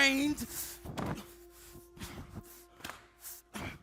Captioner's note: feet stomp; hands clap